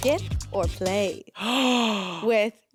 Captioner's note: gasps